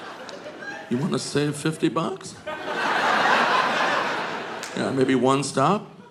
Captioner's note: audience laughing